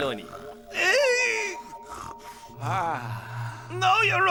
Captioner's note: Bechamel groans